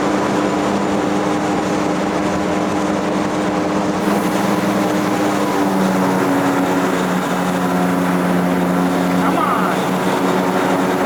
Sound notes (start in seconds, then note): 4.0 engine sputtering